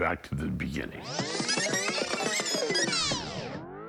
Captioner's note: tape whirrs